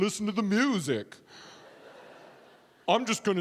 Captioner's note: audience laughing